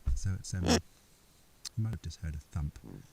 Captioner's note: chick honks